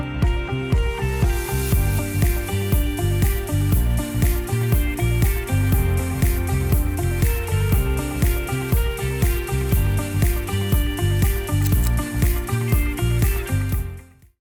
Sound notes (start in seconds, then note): 11.6 click